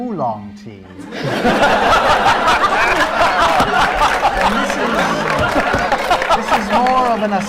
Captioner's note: laughter